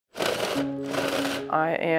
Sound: drilling sounds

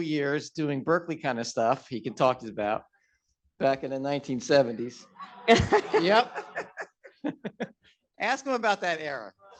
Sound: laughs

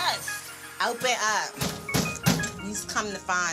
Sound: banging

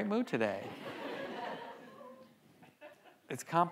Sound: audience laughs

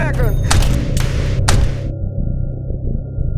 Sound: gunshots

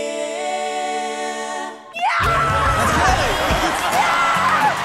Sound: cheers and applause

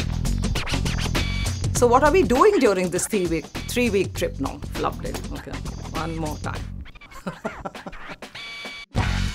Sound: laughs

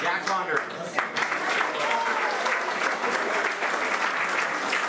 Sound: applause

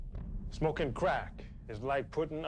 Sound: none

